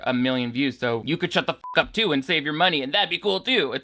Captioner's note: beep